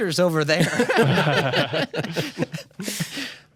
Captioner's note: laughter